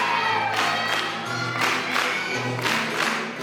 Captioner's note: applause